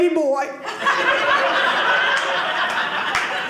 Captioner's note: audience laughing